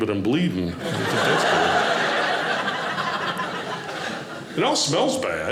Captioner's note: audience laughing